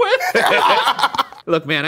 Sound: laugh

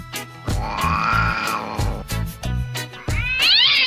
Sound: tabby Cat Growling; somali Cat Meowing

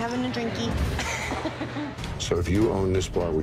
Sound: women chuckling

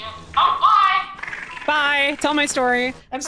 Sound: bug chitters

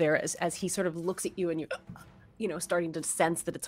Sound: mimics choking

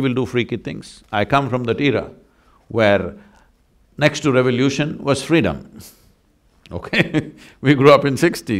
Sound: laughs

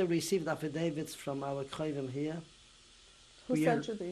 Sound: non-english

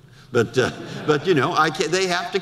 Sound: audience laughter

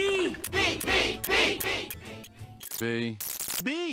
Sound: chanting

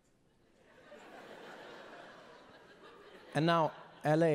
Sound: audience laughing

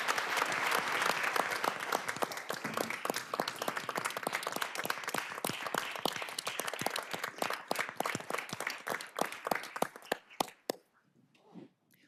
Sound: applause

